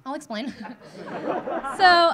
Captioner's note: audience laughing